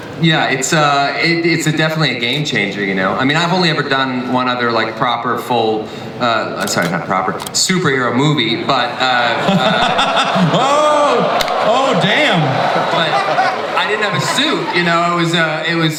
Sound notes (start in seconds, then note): 8.8 audience laughs and winces